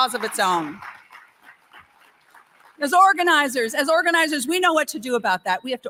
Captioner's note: applause